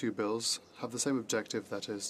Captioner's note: speaking French